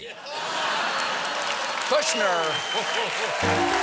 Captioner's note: applause; laughter; piano riff